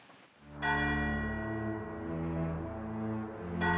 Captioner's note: bell tolling